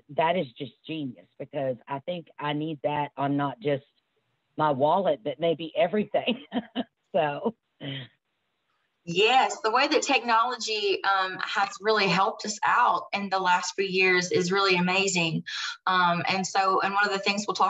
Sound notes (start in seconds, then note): 6.0 chuckles